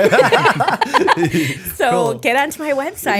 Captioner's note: laughter